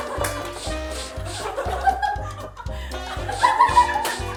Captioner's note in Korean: 킁 킁 킁